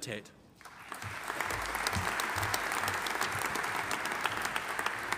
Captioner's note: audience applauding